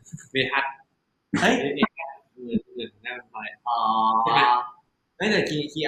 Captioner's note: answering in Thai; responding in Thai; answering in Thai